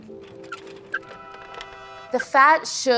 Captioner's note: cart wheels; horns